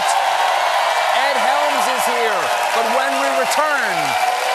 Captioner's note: cheers and applause